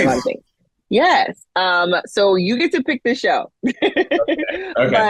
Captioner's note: laughing